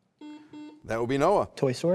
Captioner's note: buzzer beeps